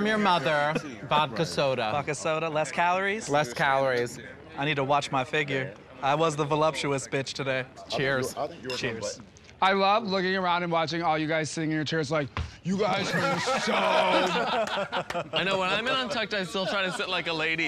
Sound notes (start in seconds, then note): 13.0 deep voice